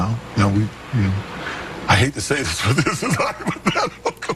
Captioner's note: laughs